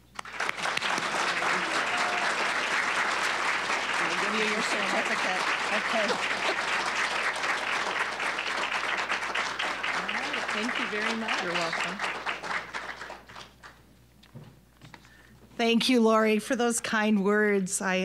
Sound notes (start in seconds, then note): 0.3 applause; 5.7 both laughing; 8.7 applause